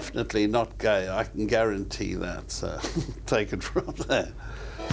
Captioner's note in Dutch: lacht